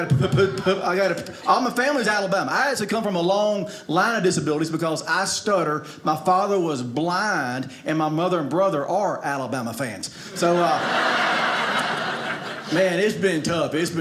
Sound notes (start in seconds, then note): 10.2 audience laughing